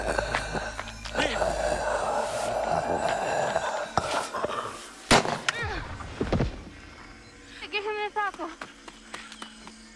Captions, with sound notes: - Liv! (gun fires) (body thudding) - Now give him the sample.